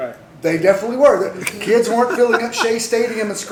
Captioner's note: laughter